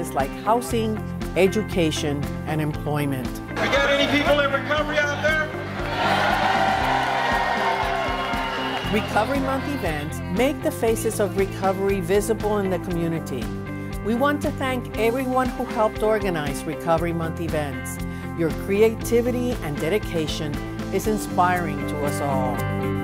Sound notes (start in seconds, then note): 5.5 crowd cheers